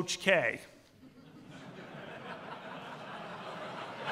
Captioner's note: laughter